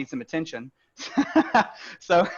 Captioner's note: laughs